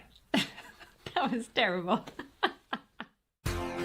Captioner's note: laughs